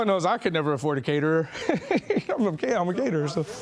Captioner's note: laughing